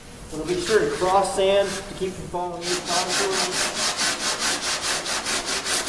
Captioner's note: drowned out by sanding